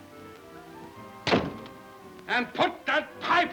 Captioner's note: door thuds